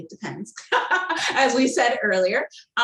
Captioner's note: laughing